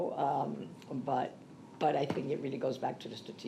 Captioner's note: speaks Spanish